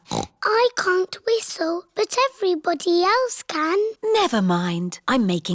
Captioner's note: snorts; sighs